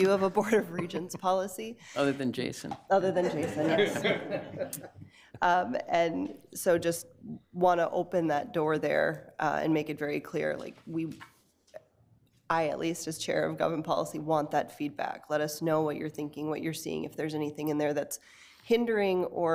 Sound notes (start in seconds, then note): 3.2 committee members laugh